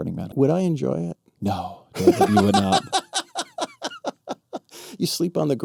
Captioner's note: laughing